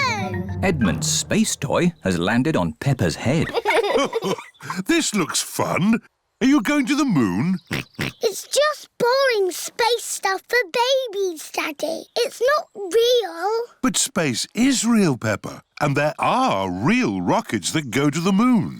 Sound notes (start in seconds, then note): 0.0 thudding; 3.2 chuckles; 7.6 oinks